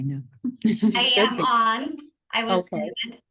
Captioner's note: board members laugh